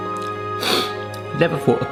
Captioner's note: sniffs